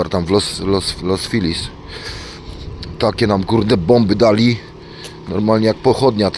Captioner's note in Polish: parsknięcie